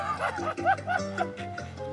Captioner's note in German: Er lacht